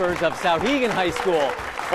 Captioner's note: applause